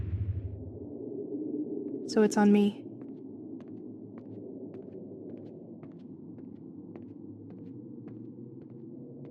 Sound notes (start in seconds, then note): 0.0 wind; 2.9 footsteps